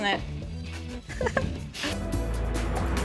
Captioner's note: laughs